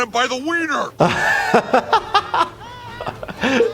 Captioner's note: laughing